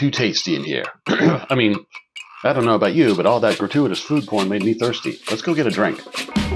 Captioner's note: ahem